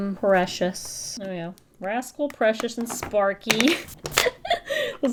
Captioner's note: laughs